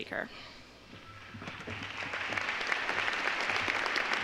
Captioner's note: applause